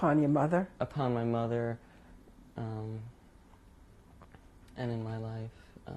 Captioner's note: pauses for 3 seconds